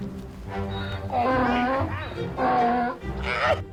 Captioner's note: donkey braying